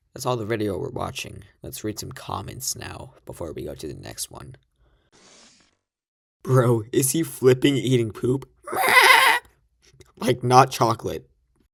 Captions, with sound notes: That's all the video we're watching. Lets read some comments now before we go to the next one. "Bro is he flipping eating poop?" (Laughing) "Like not chocolate."